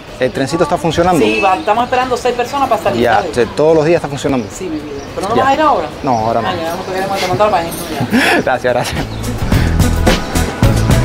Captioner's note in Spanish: risas